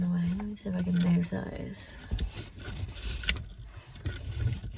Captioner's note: light clunking